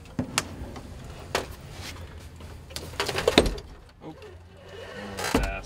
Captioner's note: wheelchair clicking